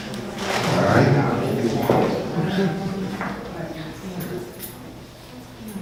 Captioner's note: audience murmurs